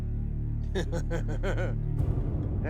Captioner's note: laughing